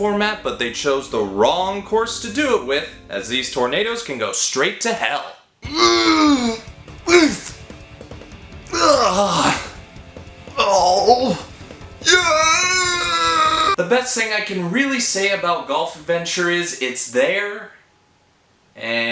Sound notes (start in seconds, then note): 7.0 tornado grunting montage